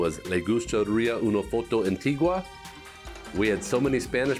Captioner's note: speaking spanish